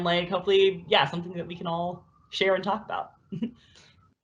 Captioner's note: laughs